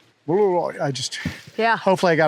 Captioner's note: vocalizes